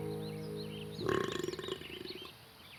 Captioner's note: burps